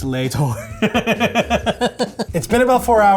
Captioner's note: laughing